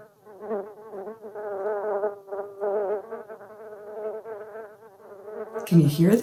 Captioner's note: buzzing noise